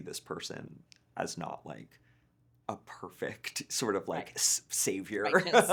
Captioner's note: laughing